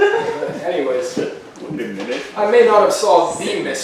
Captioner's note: audience laughing